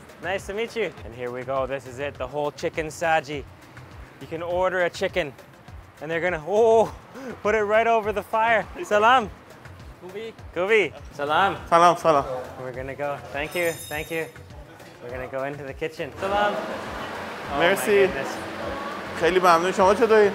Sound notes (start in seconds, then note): 9.0 speaks in foreign language